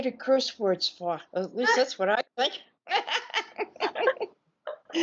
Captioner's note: laughing